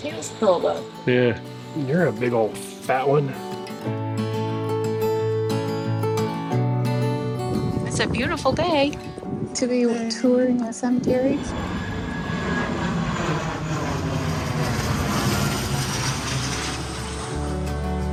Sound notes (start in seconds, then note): 4.1 mellow music; 12.5 plane whirring; 16.3 mellow music